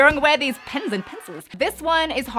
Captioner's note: crowd cheering